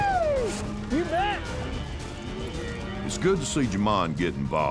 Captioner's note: rope swirling; shouts